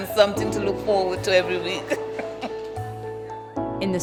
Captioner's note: laughs